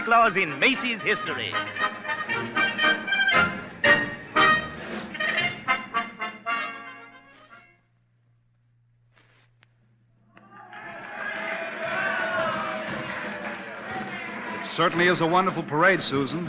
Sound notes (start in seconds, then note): 2.4 upbeat music; 5.5 crowd cheering